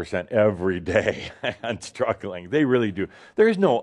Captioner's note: Adamus chuckles